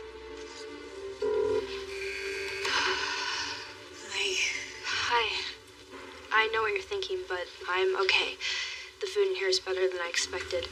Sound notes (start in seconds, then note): 1.2 ringing, , prison alarmrm buz; 1.6 sighs